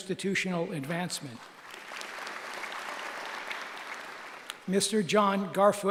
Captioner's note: applause